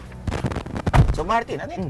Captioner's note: door thuds